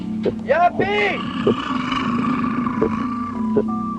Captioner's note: roaring